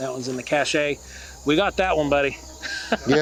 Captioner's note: laughs